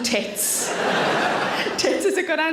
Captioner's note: audience laughs